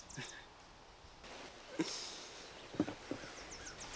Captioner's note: sighs